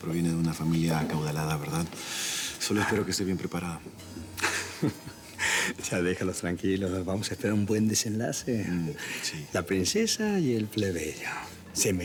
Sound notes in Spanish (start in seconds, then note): 4.3 Risas